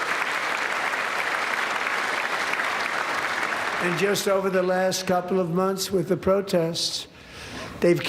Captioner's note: applause